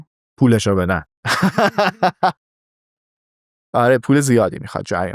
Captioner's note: laughs